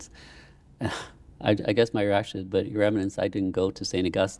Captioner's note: sighs